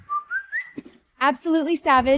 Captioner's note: whistling